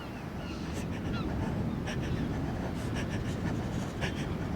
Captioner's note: breathing heavily